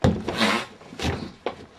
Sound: farting; door slamming

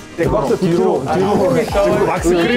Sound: tap tap

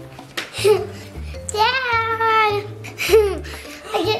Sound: exhales softly; sighs

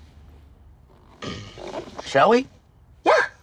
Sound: clears throat

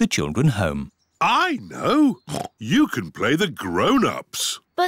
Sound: oinks

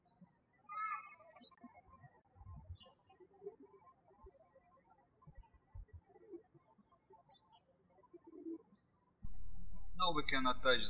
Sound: birds chirping

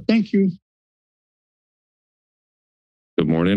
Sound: silence

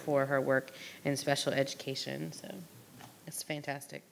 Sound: none

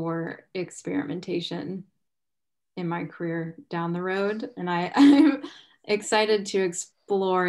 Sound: chuckles

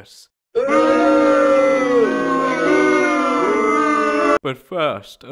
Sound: crowd booing

